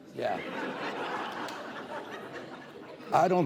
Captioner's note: laughter